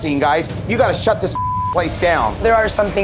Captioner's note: beep